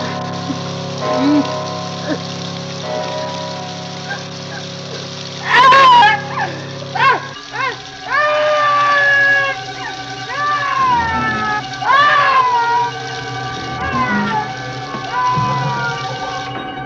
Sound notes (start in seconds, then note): 4.3 screaming; 11.2 screaming